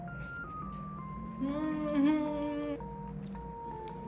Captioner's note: sob